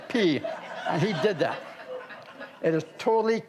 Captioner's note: audience laughs